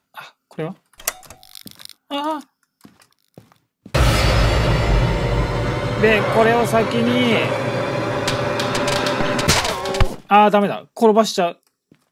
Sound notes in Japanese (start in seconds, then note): 7.7 効果音